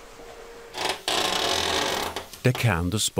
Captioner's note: creaks